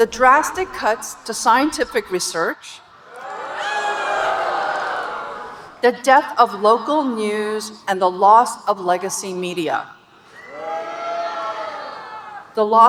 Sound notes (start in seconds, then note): 2.8 audience booing; 10.3 audience booing